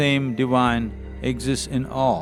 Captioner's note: none